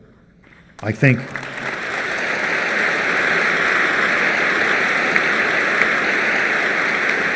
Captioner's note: applause